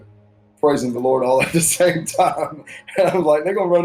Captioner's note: chuckling